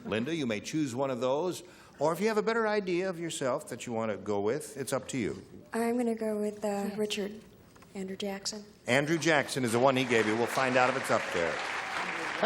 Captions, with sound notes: Linda, you may choose one of those, or if you have a better idea of yourself that you want to go with, it's up to you. -I'm going to go with Richard, Andrew Jackson. (applause) -Andrew Jackson is the one he gave you. We'll find out if it's up there.